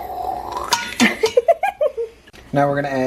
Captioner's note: making sizzling sounds; laughter